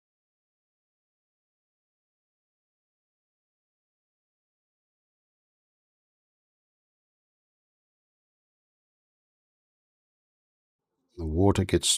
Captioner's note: silence